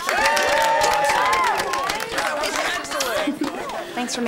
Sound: all cheering and applauding

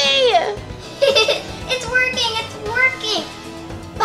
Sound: laughs

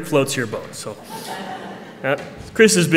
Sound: laughter

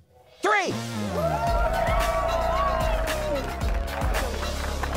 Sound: crowd cheering

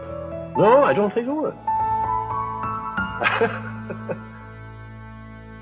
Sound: laughs

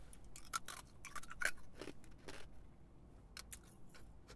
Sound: crunching

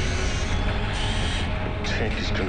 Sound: whirring continues

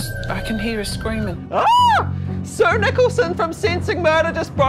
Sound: screams

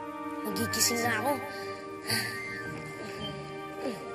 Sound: sighs

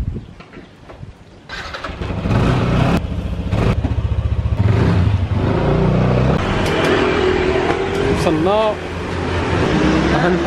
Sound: engine sound

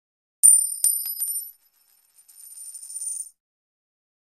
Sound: coins dropping

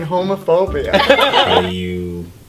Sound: laughter

